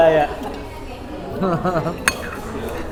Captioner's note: laughs